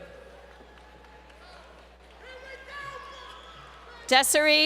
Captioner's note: crowd Cheering